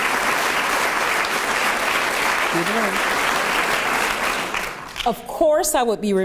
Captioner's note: applause